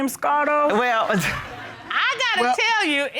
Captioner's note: audience laughing; chuckles